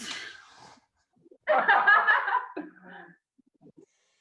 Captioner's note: laughter and pause